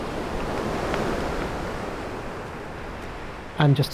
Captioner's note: wave crashes